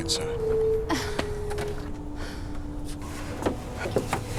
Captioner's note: Harriet scoffs